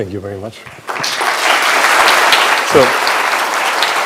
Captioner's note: applause